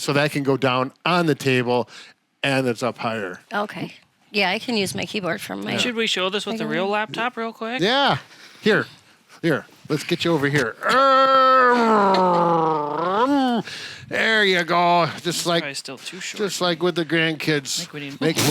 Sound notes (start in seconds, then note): 10.8 growls; 18.2 blows raspberry